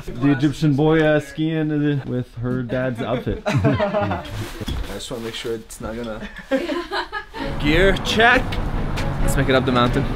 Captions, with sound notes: The Egyptian boy skiing with her dad's outfit. *laughs* I just want to make sure it's not gonna... Gear check! Let's make it up the mountain.